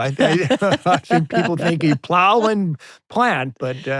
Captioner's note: laughing